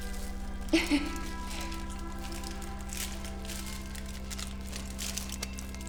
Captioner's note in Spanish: crujido del papel de aluminio